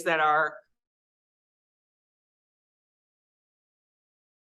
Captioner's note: audio cuts out